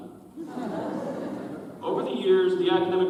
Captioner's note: audience chuckles